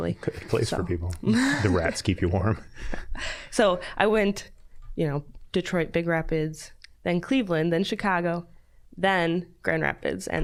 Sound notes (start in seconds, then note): 1.2 all chuckling